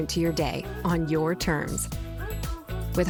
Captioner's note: none